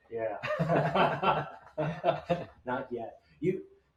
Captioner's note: engineers laughing